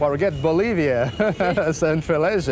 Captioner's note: laughs